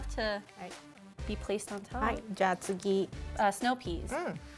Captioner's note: speaking Japanese